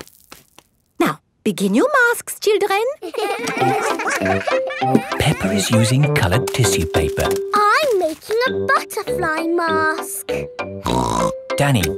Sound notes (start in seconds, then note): 3.0 all giggling; 10.8 snorts